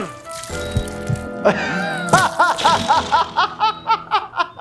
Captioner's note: laughs